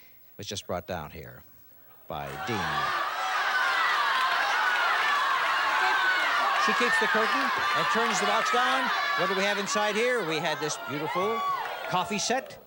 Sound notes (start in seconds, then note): 2.6 cheers